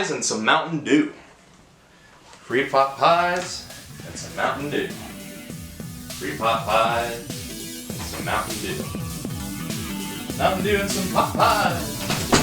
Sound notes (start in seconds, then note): 1.9 continues to mumble as he exits the room